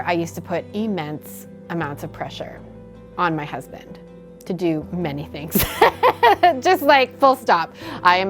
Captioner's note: laughter